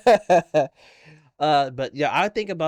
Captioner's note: laughing